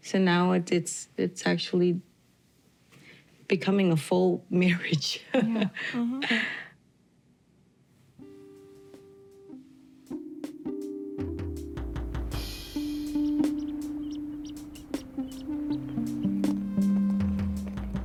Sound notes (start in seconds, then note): 8.7 gentle music; 12.4 ducks quacking